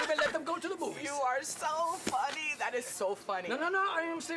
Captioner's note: laughing